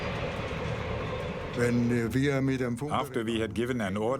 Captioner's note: speaking in foreign language